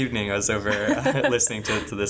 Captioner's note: laughing